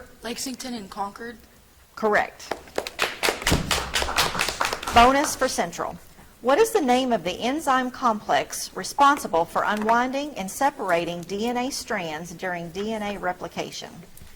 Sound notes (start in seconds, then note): 2.4 audience clapping